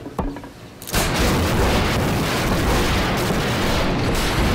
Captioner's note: clanging; gunshot